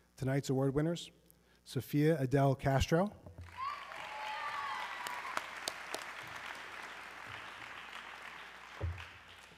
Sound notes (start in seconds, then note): 3.5 audience cheering